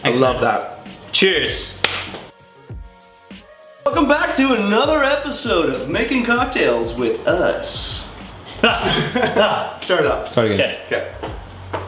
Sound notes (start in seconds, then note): 8.5 laughing